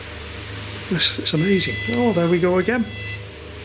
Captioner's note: machine beeping